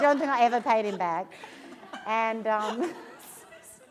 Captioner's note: laughter